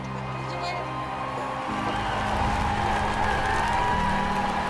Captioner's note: stirring music; crowd cheers